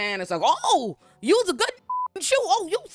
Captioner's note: beep